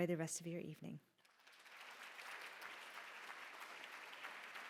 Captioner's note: applause